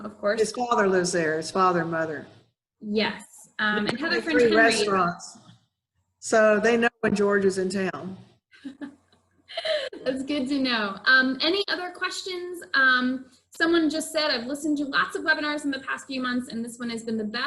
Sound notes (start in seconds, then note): 9.5 laughs